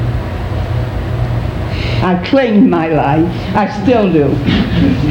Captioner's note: audience applauding